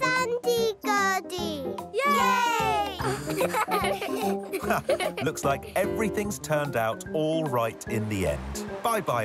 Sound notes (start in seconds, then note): 3.0 laughter